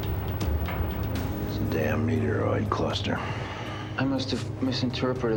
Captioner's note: sighing